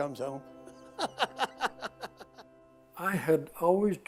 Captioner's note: chuckling